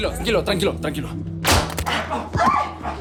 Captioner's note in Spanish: Disparo; Grito